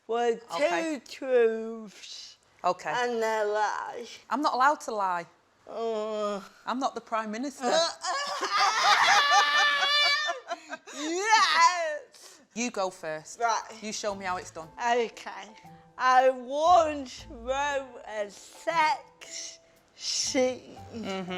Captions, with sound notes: with two truths- Okay. -and a lie? I'm not allowed to lie. Oh I'm not the Prime Minister. [CHEERS] [LAUGHS] Yes! You go first. Right You show me how it's done. Okay. I once wrote a sex scene